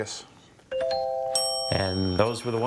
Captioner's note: timer dings; scoreboard dings